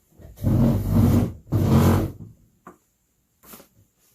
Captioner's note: chair drags